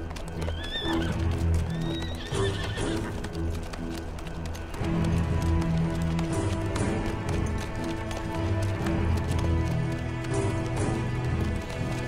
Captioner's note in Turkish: Kişneme Sesi, Nal Sesleri